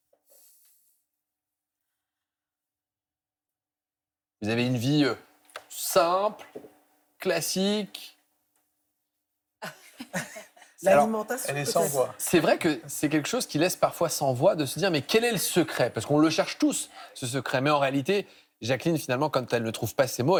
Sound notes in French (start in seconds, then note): 9.6 rires